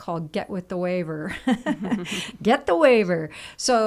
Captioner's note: laughs